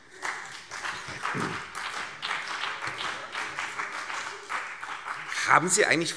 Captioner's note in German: Beifall CDU und BÜNDNIS 90/DIE GRÜNEN